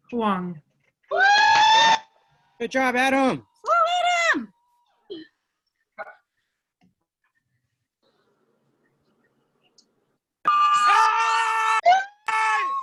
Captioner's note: cheering